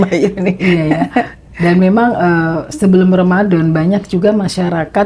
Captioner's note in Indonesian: tertawa